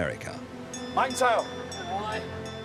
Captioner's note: bell chimes